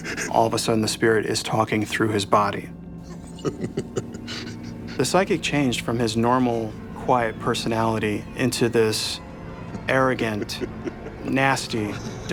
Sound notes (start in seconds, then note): 0.0 sobbing; 3.0 evil chuckling